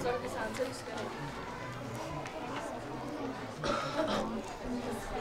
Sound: students talking

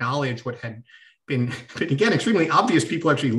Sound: laughter

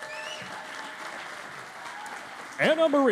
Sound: cheering and Applause

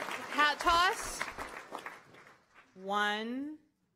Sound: applause

